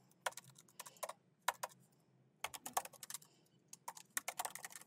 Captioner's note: keyboard clacking